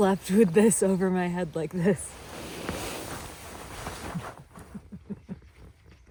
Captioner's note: laughs